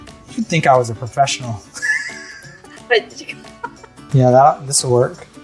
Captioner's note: both laugh